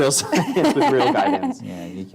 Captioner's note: laughs